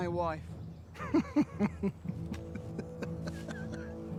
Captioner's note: Kjartan laughs